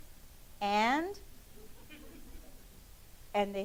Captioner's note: laughing